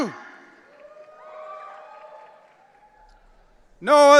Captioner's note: audience cheering